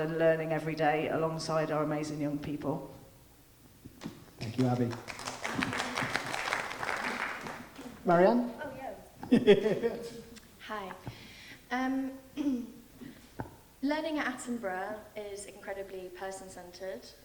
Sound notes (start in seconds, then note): 4.4 audience applauding; 9.2 laughing